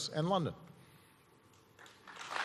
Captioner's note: applause